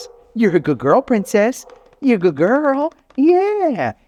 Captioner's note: palm taps